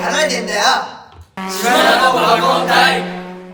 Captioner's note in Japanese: バイク通過音